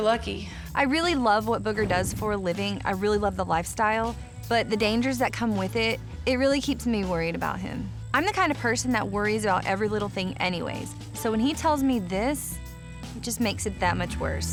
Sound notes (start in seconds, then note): none